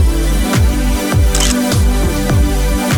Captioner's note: photo Click